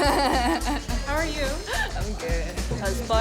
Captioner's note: laughing